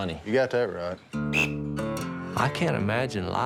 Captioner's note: duck call